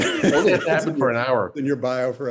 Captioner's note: laughs